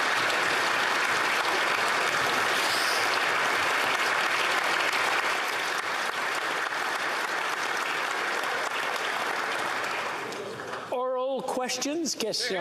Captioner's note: applause